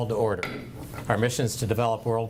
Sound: gavel bangs

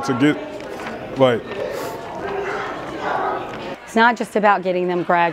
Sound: crowd Noise

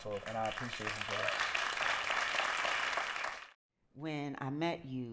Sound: applause

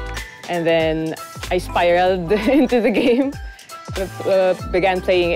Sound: laughs

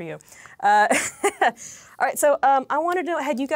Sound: laughs

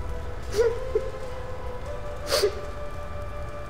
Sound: Simon sobbing

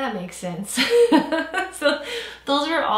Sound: laughs

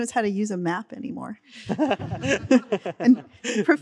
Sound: all laughing

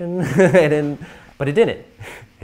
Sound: laughter

